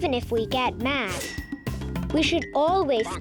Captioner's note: planet clanking